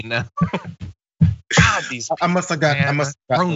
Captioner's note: laugh